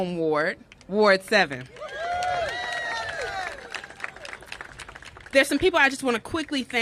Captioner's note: cheers and applause